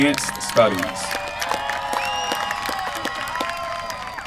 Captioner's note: applause